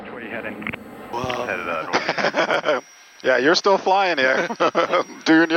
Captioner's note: laughs